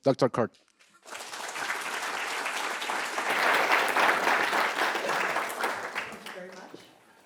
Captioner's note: audience applauding